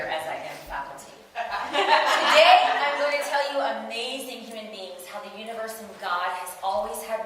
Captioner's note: audience: Laughter